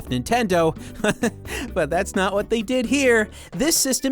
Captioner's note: chuckles